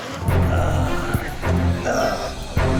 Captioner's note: groans